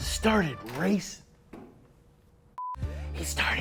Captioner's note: door opens